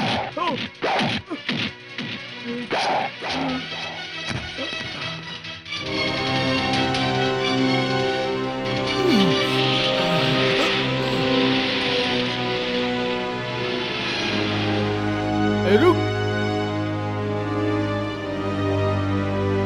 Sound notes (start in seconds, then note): 8.8 groans